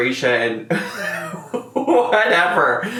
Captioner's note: laughing